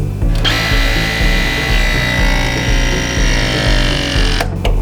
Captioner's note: Ridgid squealing